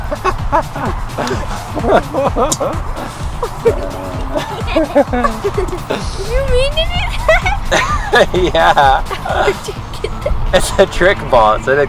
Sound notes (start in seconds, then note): 0.0 laughs; 10.1 laughing